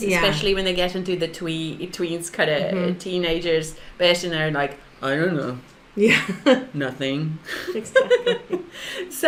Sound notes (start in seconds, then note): 6.2 laughs; 7.5 both laugh